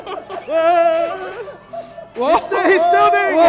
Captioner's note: laughing; yelling